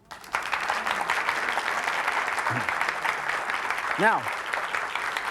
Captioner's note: audience applauds